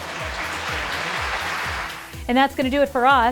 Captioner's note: applause